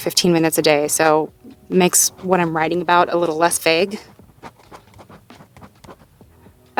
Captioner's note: writing sounds